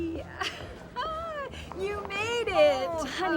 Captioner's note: laughs